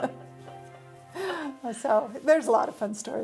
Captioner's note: laughs